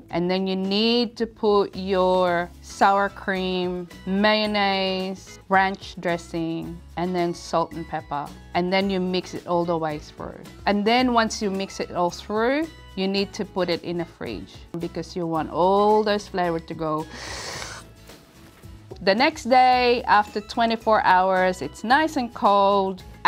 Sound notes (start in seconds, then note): 17.2 sips